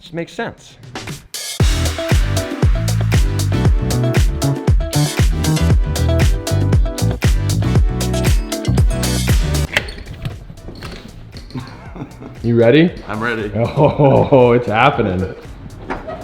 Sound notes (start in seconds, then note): 9.6 door lock snaps and handle squeaks; 11.5 laughs